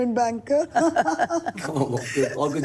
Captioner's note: laughter